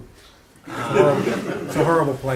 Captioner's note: laughter